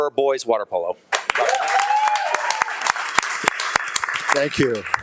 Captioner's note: audience applauding and cheering